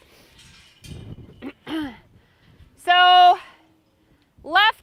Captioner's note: clears throat